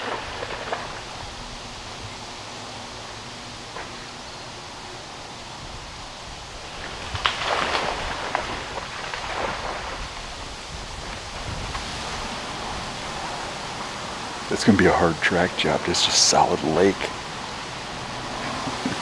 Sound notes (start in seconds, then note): 0.2 wind; 6.8 deer stumbling in water